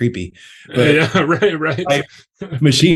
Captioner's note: laughs